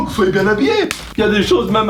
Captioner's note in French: Claque